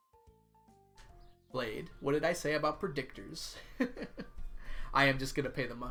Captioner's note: laughs